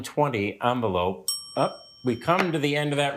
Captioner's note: bell dings